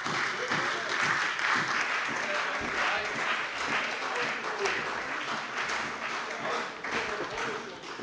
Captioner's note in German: Beifall bei der CDU und dem BÜNDNIS 90/DIE GRÜNEN